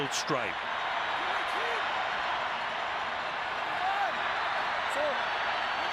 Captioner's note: crowd cheering